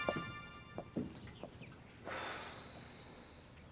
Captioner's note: sighs